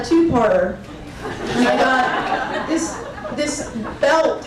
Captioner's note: crowd laughing